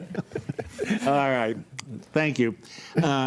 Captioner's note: group laughs